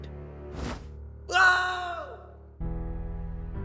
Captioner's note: nickel screams